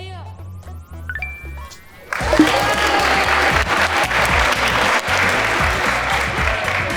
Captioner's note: group applauds; electronics ring